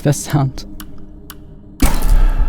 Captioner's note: timer ticking; dramatic warble